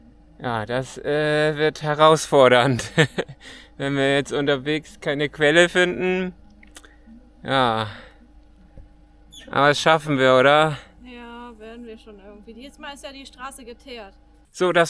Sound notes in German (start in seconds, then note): 2.6 gelächter